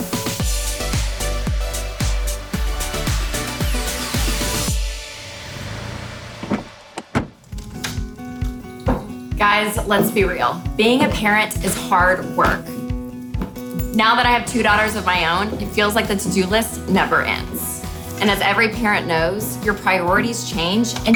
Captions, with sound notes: (upbeat music) (door slams) Guys, let's be real. Being a parent is hard work. Now that I have two daughters of my own, it feels like the to-do list never ends. And as every parent knows, your priorities change,